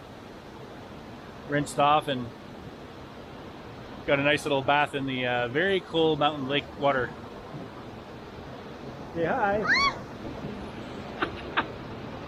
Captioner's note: shrieks